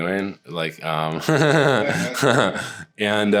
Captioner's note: laughter